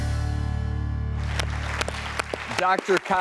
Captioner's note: applause